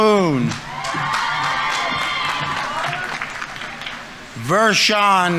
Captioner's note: audience members cheering; audience applauding